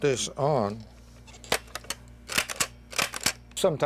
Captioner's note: lever clicking